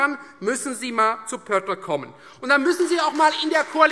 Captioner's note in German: Beifall Freie Demokraten